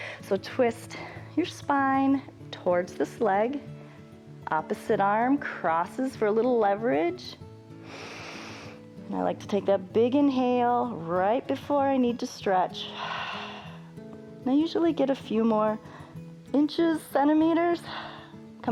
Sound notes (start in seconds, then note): 7.8 inhales; 12.9 exhales